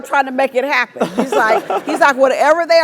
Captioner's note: laugh